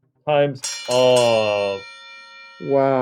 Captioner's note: bell ringing